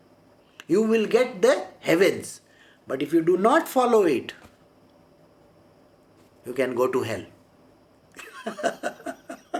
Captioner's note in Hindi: हँसी